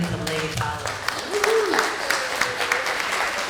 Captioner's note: applause